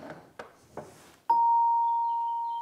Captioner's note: bright sound